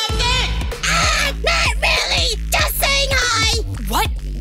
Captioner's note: yelling